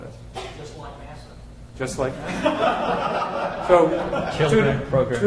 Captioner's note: laughter